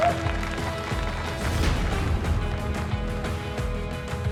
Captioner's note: laughing; applause